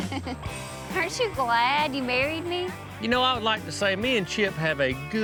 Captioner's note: chuckling